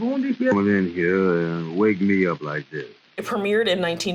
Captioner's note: radio